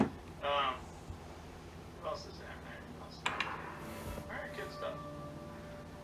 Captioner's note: Netflix Sound